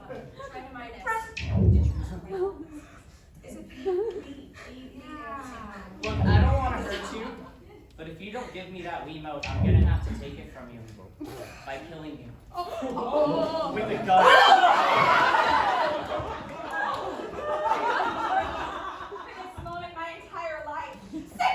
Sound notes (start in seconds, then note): 1.4 error sound; 4.2 multiple error sounds